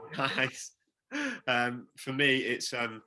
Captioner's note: laughs